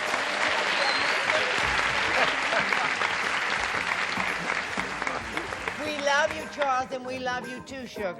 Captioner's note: applause